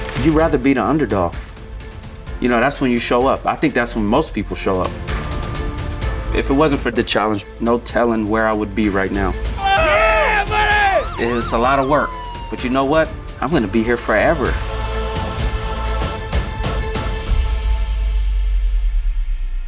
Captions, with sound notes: You'd rather be the underdog. You know, that's when you show up. I think that's when most people show up. If it wasn't for "The Challenge," no telling where I would be right now. - Yeah, buddy! - It's a lot of work. (sirens ring) But you know what? I'm gonna be here forever. (compelling music concludes)